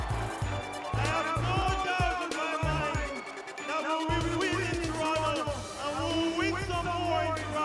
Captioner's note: cheering and Applause